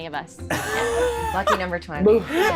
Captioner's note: laughing